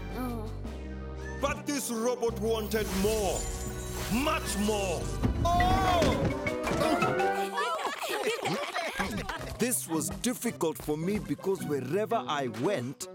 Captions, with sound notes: Oh! But this robot wanted more, much more. Ohhh! Aw! -[crowd laughing and cheering] -[Tobor groaning] This was difficult for me because wherever I went...